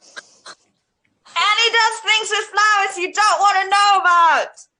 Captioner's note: shouts